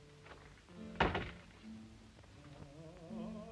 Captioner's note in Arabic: موسيقى جيتار خافتة; يغلق الباب; غناء وموسيقى الجيتار